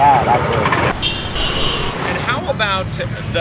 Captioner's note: honking